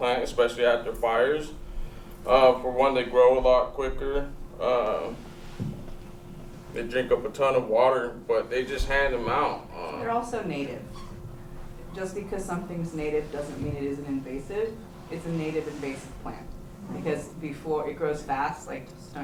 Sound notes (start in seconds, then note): none